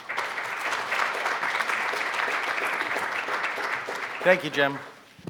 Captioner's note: crowd applauding